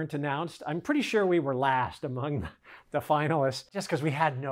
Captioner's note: giggles